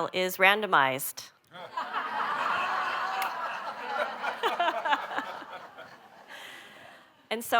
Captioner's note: laughter